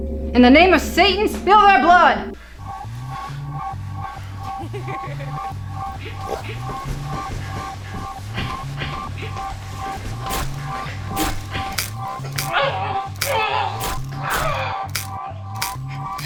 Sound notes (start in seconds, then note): 3.1 suspenseful music; 4.2 laughing; 12.8 screaming